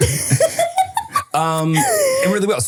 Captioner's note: person laughing